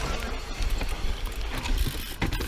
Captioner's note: bicycle moving